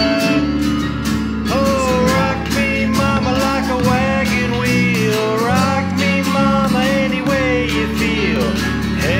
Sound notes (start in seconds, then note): 1.5 joins in with beatbox jam